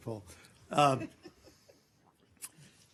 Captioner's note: laughter